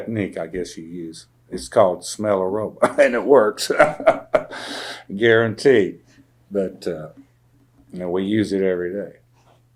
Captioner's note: laughs